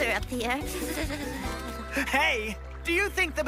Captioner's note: birds calling; Squeeks shivers